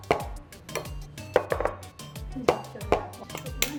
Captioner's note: lighter clicks; thumping; thumping continues; conversation in background; lighter clicks